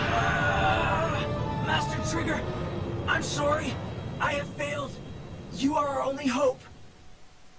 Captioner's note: screaming